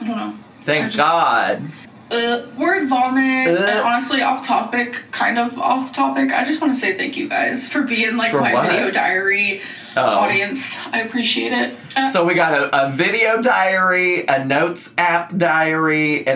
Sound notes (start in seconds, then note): 3.4 groans; 3.4 mimics groan